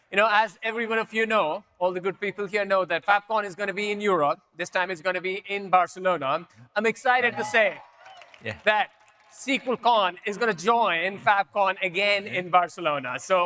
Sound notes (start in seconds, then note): 7.2 audience members cheer